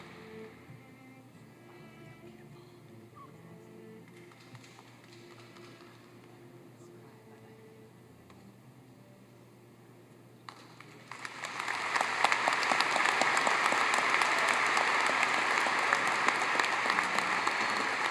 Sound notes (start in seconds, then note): 1.6 cheers and applause